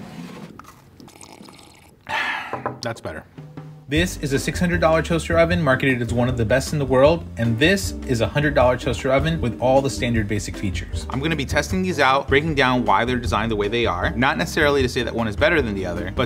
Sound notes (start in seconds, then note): 2.0 sighs